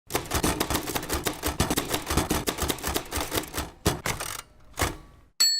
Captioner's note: vintage typing clicking